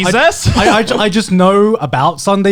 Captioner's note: chuckling